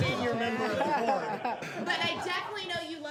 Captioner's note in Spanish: risas